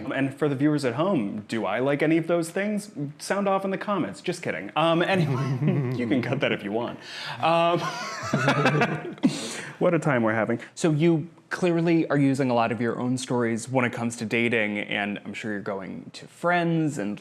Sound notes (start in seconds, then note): 5.2 both chuckles; 7.7 both laughing